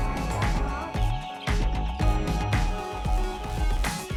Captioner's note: chicks peep